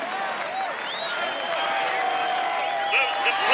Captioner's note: crowd cheering